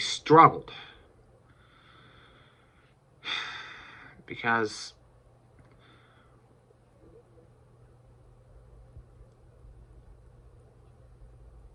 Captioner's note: stammers